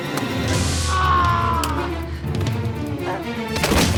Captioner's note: screams; dramatic music